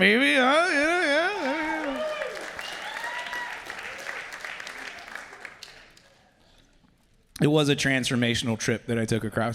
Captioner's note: applause